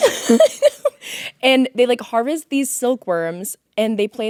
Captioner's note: laughing